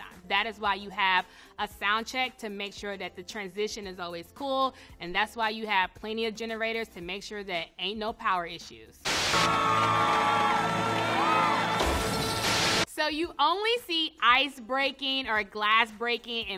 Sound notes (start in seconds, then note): 9.2 crowd claps and cheers; 11.8 ice shatters; 12.1 TV static hisses